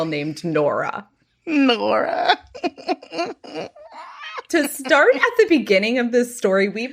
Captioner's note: laughing